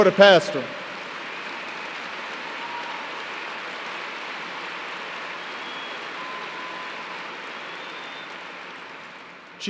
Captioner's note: applause